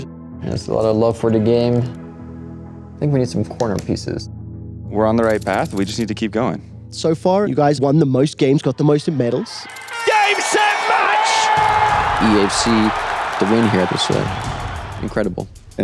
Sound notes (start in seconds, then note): 9.0 crowd cheering